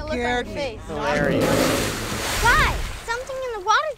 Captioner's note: loud splash